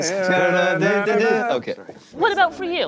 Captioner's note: Jim and Don vocalizing